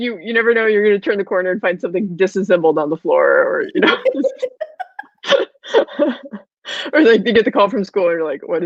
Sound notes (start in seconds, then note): 3.7 both laughing